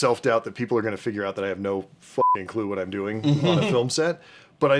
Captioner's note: beeping